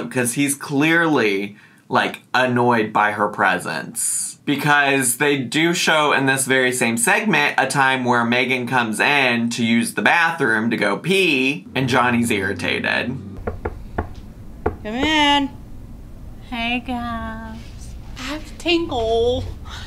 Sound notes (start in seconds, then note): 14.6 knuckles knocking